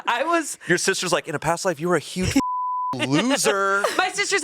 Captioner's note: beep